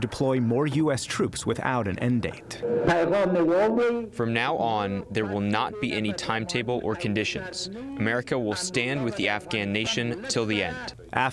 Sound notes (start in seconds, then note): 3.9 through translator